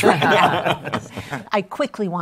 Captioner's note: laughter